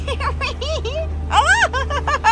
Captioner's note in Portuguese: risadas